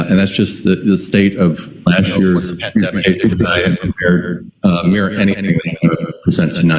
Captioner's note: distorted sound